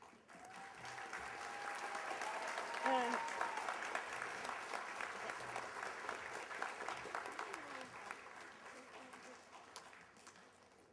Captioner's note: applause